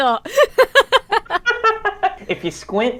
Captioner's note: both laugh